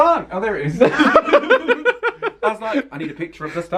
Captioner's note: both laugh